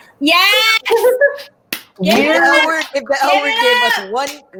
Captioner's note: laughs